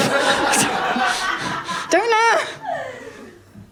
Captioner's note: laughter